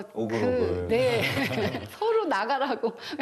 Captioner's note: ㅎㅎㅎㅎㅎㅎㅎ